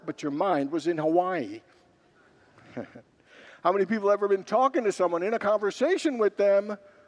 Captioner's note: congregants laugh